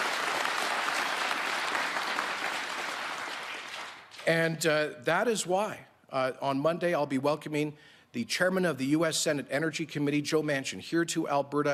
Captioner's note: applause